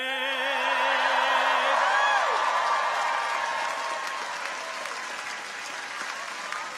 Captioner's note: audience cheers; audience applauds